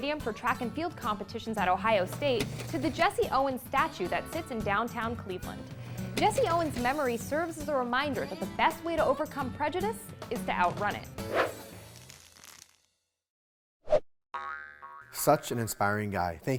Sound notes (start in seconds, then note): 11.3 screen swooshing; 11.5 spring pinging